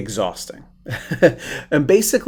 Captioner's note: chuckling